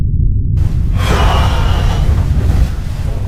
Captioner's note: exhales